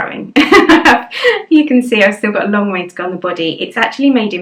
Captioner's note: laughs